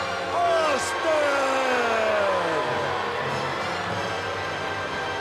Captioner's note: audience jeers